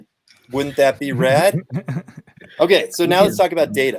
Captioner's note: laughter